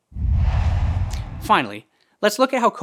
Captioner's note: logo swooshes